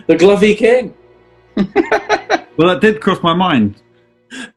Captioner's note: chuckles